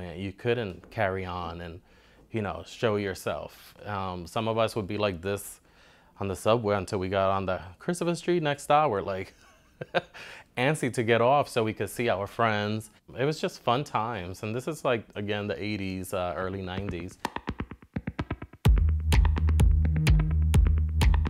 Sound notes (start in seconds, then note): 9.4 laughs